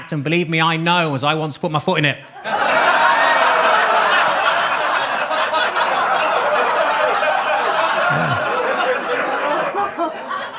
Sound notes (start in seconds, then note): 2.4 audience laughs